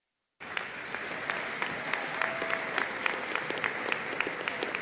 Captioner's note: audience applauding